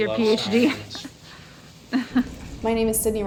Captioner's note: chuckling